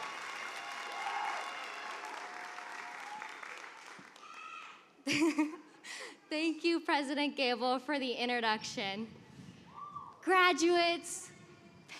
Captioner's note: cheers and applause